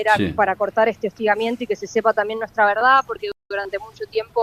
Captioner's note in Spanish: carraspeo